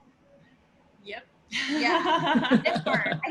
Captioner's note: laughter